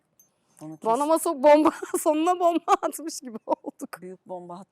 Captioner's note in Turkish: kahkaha